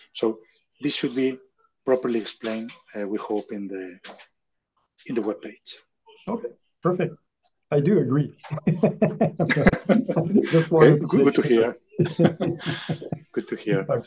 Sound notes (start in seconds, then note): 8.4 laughs